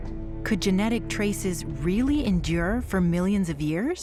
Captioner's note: none